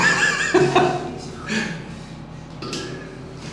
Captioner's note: laughing